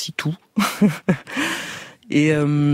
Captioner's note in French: rires